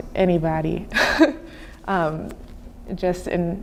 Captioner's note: chuckling